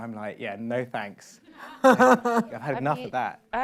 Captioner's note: laughs